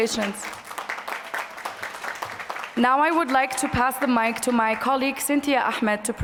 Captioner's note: applause